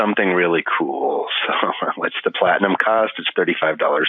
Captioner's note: laughing